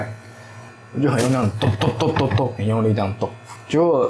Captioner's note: chop chop chop